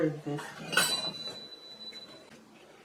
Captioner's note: clang